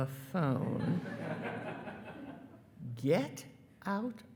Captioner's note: attendees laughing